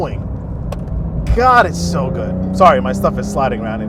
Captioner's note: car engine revving